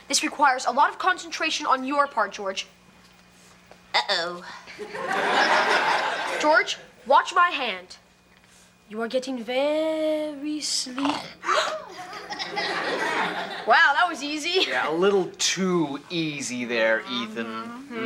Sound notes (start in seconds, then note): 4.8 audience laughs; 11.1 George snores; 11.9 audience laughs